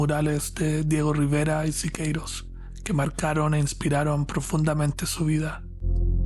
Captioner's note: narrator speaking Spanish